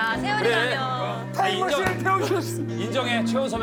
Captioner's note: sobs